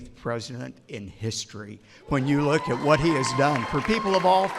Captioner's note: applause